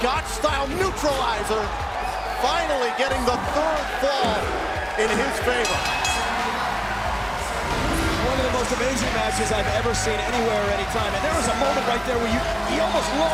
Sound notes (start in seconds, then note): 5.6 bell ringing